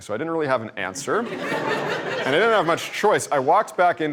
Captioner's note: laughter